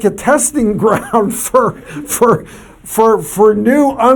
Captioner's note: laughs